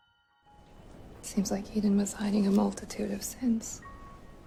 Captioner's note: voiceover